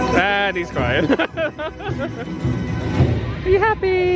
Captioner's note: laughs